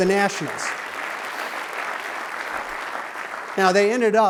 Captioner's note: clapping